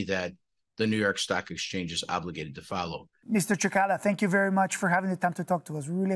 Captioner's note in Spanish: HABLA EN INGLéS